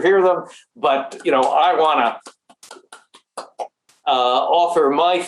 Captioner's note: claps